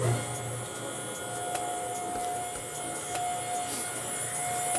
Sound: machine motor running

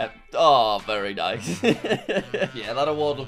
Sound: chuckles

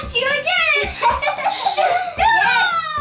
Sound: giggling

